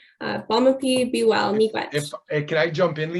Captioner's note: speaking in Anishnawbemowin